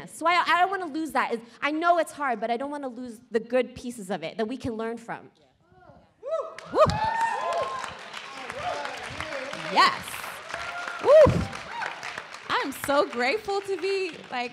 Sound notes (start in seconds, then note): 6.5 applauding